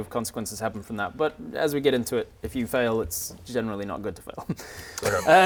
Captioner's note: laughs